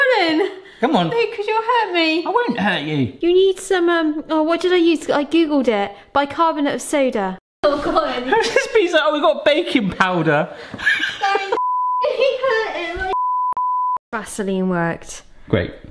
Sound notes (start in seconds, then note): 10.7 laughs; 13.0 beeping; 13.1 beep